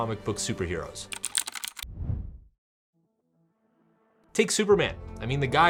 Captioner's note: keyboard keys clacking